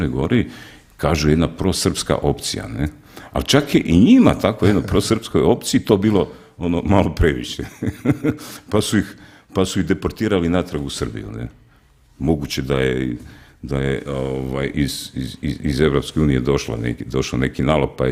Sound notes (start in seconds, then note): 7.6 laughter